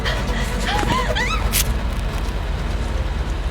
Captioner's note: Miranda's scream is cut off